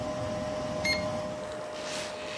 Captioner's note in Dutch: 3D meetmachine piept